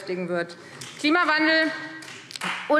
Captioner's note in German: Beifall Freie Demokraten